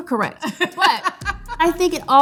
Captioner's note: laughing